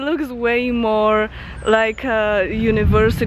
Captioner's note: thunder